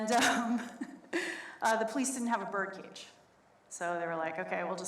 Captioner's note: laughs